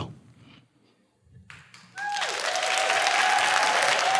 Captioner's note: applause